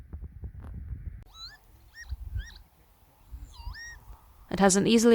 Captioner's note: lapwing sounds